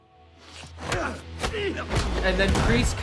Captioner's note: men grunt